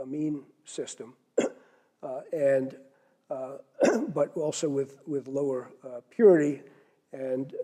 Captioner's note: cough